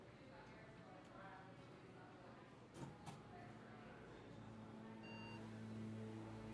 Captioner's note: staff chattering